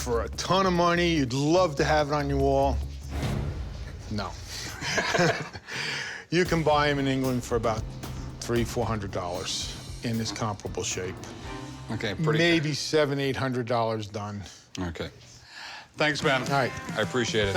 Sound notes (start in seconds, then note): 4.6 laughing